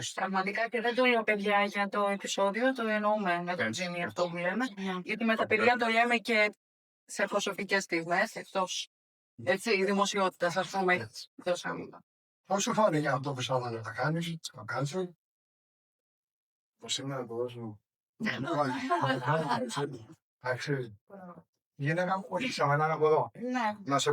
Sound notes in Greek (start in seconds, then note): 18.3 γέλια